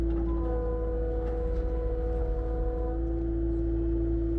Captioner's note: engine roaring